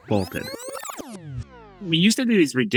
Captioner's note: graphic buzzes